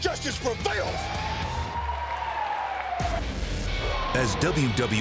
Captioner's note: siren blares